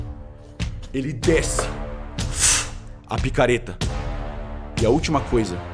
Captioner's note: fshh